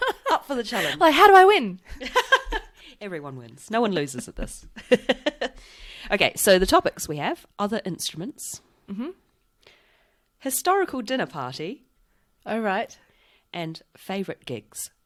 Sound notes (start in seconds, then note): 2.6 laughs